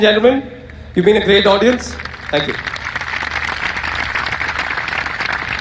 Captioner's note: applause